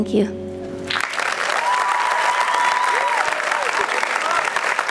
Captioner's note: applause